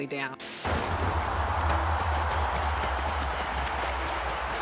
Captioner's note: crowd cheering